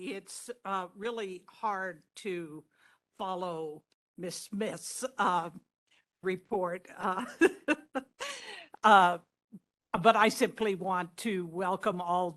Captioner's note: laughing